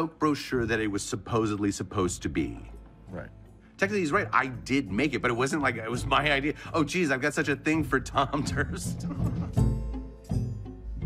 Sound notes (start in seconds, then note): 8.8 laughs